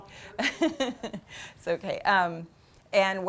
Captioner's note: laughs